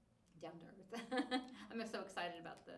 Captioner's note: laughs